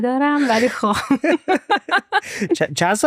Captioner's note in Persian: خنده